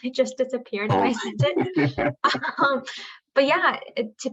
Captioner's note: laughter